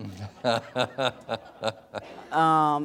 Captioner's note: laughter